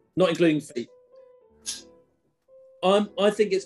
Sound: light clink

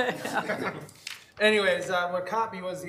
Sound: all laughing

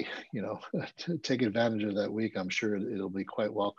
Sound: chuckles

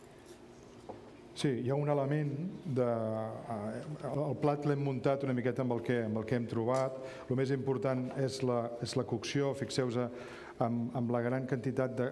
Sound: speaking catalan

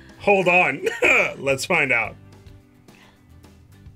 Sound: laughs

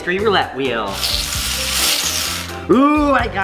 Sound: balls rattling

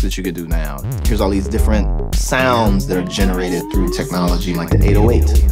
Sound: audio is modulating with effects; echoing

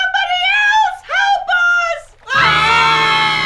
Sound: screaming

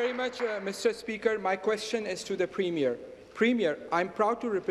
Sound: applause

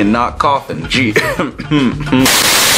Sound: coughs again

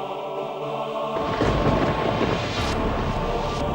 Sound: ominous music; thunder crashes

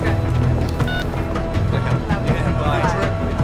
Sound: dial tone sound

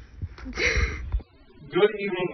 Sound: laughs

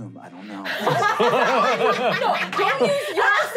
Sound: laughing

